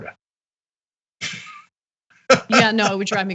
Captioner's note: laugh